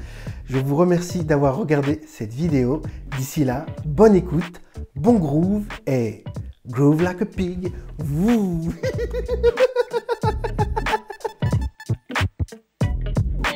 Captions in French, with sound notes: Je vous remercie d’avoir regardé cette vidéo. D’ici là, bonne écoute, bon groove et… Groove Like a Pig (rires).